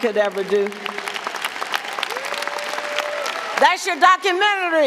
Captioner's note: audience applauding; audience cheering